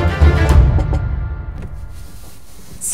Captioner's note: Knocking